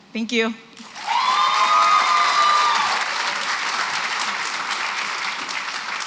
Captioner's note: applause, cheering